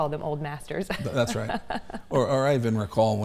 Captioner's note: laughs